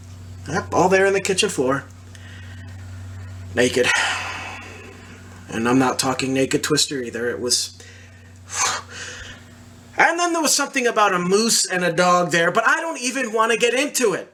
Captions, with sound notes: Yep, all there on the kitchen floor naked. And I'm not talking naked twister either. It was [hard exhale] and then there was something about a moose and a dog there but I don't even want to get into it!